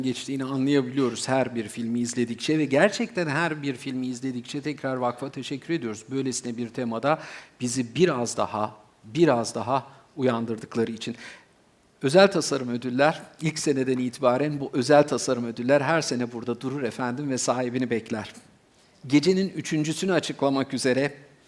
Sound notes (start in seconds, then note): none